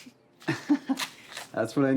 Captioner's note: Hatfield laughs